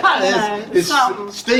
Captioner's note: laughing